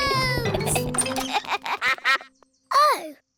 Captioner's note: giggling; quacks